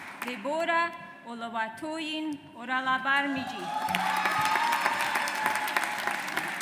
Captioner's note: audience applauds